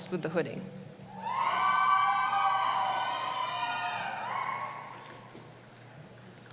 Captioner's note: cheering